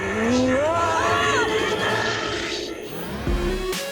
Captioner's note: scream